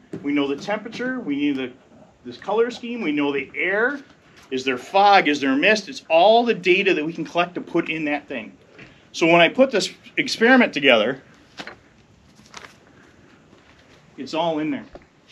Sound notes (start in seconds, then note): none